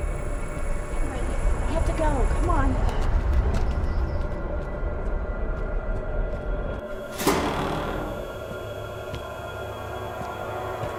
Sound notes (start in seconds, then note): 7.0 door creaking